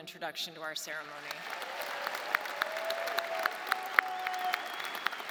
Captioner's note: audience applauding